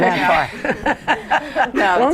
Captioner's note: laughter